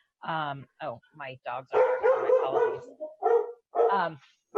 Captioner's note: barks